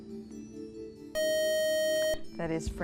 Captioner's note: buzzer